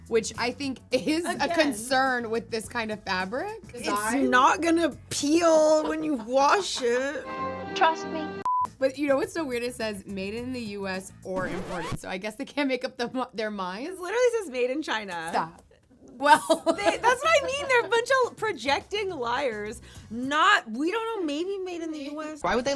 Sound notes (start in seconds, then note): 8.6 screen beeps; 16.2 laughing